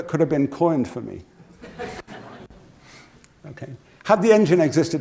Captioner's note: laugh